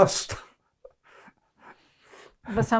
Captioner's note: laughing